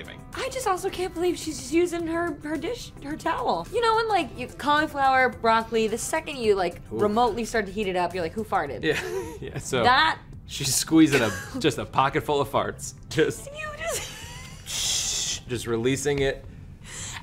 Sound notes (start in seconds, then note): 14.6 blows air